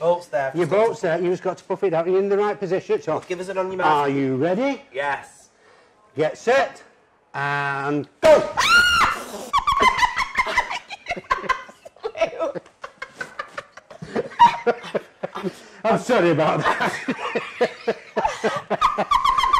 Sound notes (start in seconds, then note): 8.3 screams; 12.4 laughs; 18.9 laughs